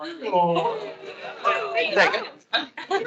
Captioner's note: attendees laughing